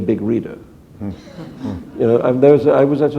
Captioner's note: chuckle